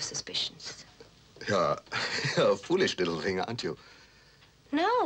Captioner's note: laughs